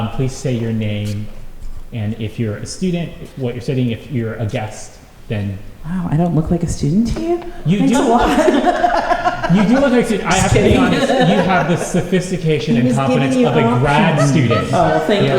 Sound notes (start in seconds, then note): 7.8 laughter